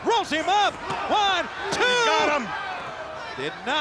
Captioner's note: hands thudding